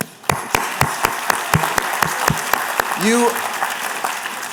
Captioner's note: applause